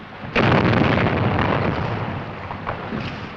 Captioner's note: explosion